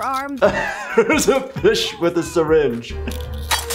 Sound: laughs

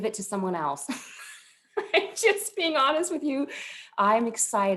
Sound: laughter

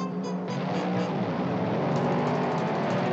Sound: engine roaring

